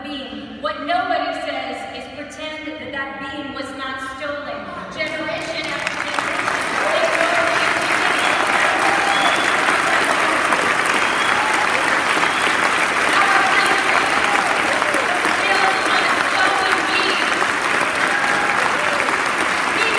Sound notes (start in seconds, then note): 5.1 applause